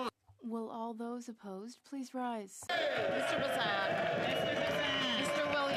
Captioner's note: speaking French